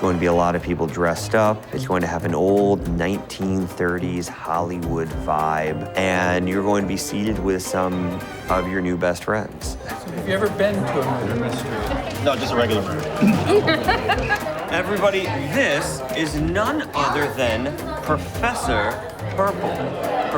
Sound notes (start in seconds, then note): 13.9 laughs